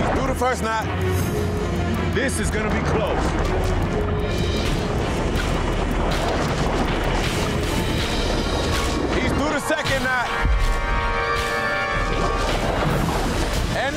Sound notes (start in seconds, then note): 4.3 urgent music; 4.3 water rushing